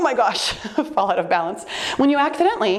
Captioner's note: chuckling